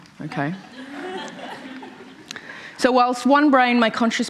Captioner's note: laughter